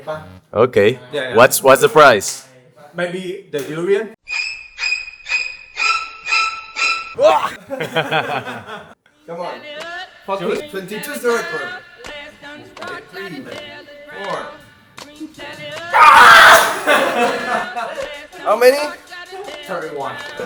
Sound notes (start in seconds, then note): 15.9 screams